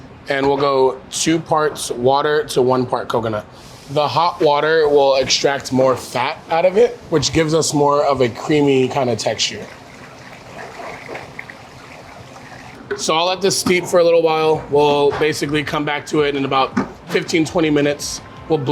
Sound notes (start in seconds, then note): 10.1 water gurgling